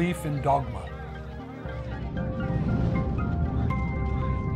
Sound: indistinct chatter

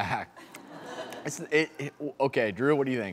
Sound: laughing

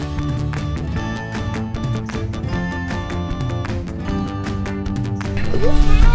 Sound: kids playing in background

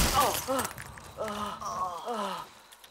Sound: both groaning

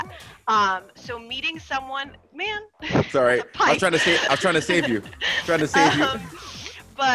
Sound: laugh

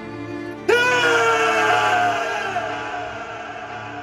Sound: yells

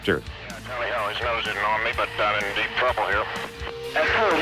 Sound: radio chatter

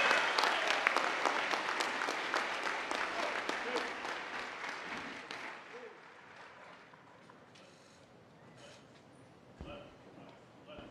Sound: cheers and applause

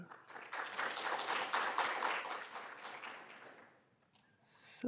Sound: applause

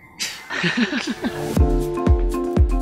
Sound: laughing; uptempo music

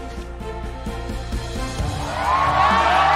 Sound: cheering

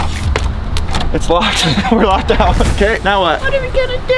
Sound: door lock clanks; chuckles

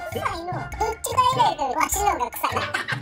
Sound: boss monkey voice; laughter

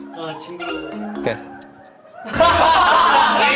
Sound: the sound of laughter outside the prison

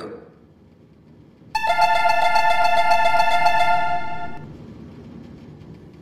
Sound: door closing chime

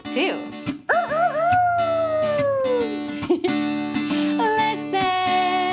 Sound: crowing

